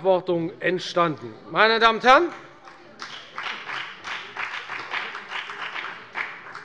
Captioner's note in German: Beifall bei der FDP